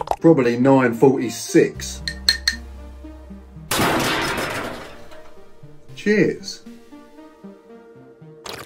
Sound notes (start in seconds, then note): 3.6 spoon crashing